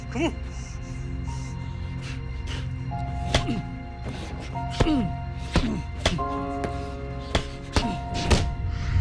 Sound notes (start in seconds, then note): 4.6 men grunting